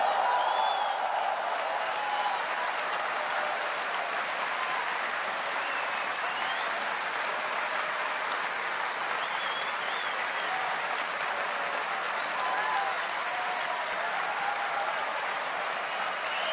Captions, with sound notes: Today we are announcing that Swift will be open source. [Cheers and applause]